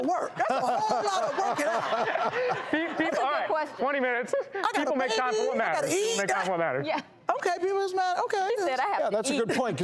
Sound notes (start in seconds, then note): 2.2 laughing